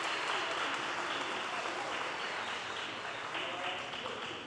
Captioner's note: audience applause